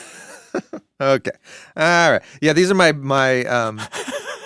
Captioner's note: laughs